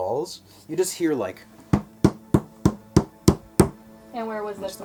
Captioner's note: knock knock knock knock knock knock knock